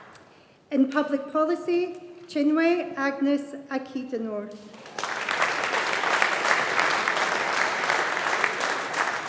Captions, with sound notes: In Public Policy, Chinwe Agnes Akhidenor. (AUDIENCE APPLAUDING)